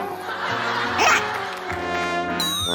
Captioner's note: surprised